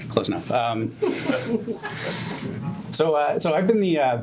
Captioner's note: gentle laughter